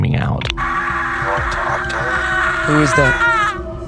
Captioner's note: screams